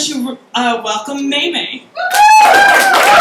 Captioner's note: applause